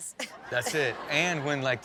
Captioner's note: audience laughs